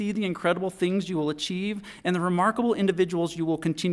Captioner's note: none